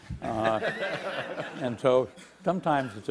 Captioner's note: laughing